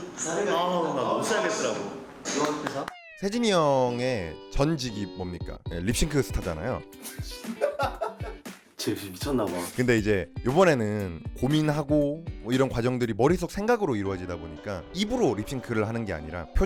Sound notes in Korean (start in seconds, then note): 7.3 웃음소리; 7.4 실소